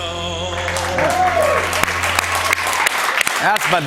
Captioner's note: cheers and applause